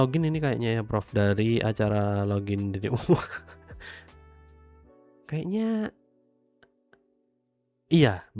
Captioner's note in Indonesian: tertawa